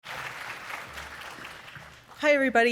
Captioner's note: audience applauding